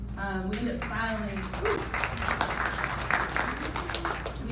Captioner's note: audience applauding